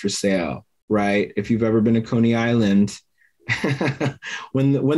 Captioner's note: laughs